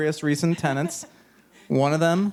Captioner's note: chuckling